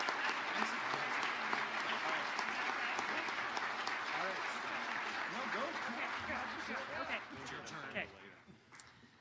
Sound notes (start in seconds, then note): 0.9 speaking off mic